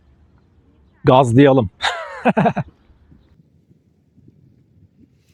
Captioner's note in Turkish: kahkaha